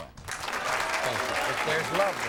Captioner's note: audience cheers